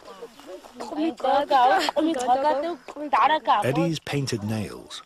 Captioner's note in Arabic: النساء يتحدث بلغة أجنبية